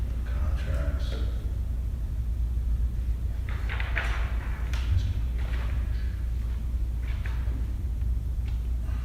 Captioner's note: whisper